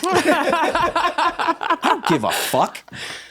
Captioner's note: everyone laughs